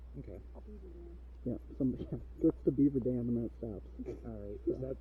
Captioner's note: laughing